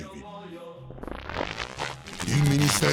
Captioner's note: electric short circuit buzz